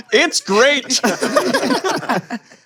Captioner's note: laughter